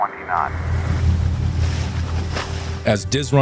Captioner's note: boat engine rumbles